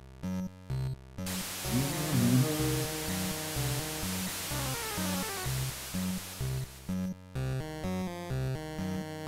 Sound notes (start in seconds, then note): 1.3 humming along